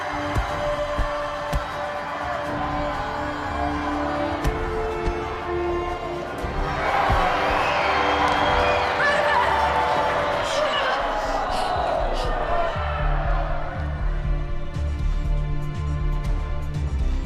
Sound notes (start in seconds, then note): 0.1 punches thump; 0.2 audience applauding; 11.0 Ava panting; 14.2 dramatic music